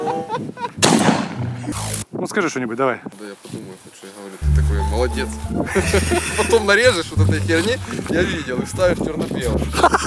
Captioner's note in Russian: смех